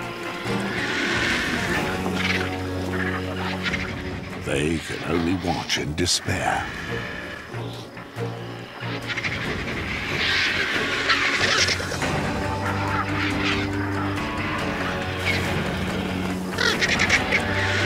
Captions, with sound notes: They can only watch in despair. [birds squabbling]